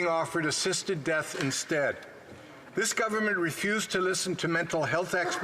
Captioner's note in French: voix de l'interprète